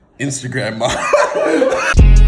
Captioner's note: laughs